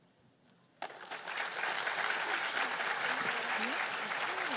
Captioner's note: applause